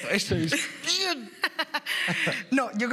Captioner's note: laugh